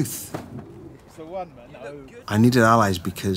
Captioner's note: people chattering